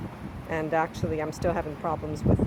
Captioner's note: sound of the wind, in regular volume